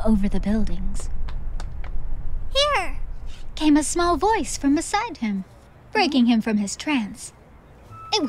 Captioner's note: footsteps